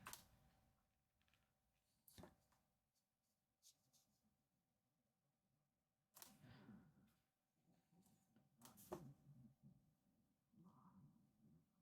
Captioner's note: silence